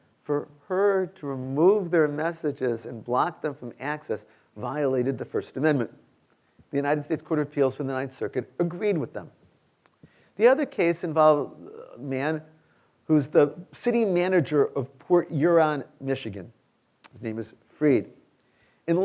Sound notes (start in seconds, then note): none